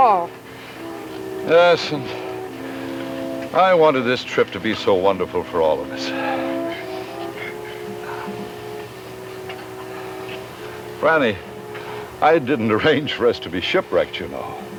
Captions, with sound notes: We're all together, and that's all that matters. (suspenseful music) (birds squawking)